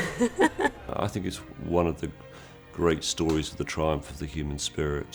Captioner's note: laughter